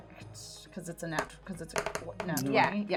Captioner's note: dice rolling